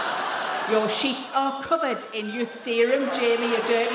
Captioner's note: in a cross voice